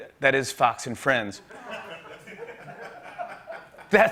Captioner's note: light laughter